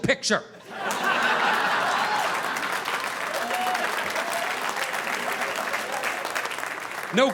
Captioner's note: audience laughing; audience applauding